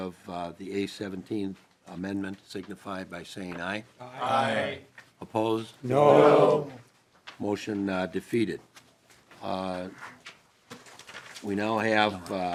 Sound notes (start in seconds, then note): 5.8 chorus of ayes